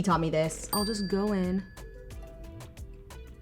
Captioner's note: bell pings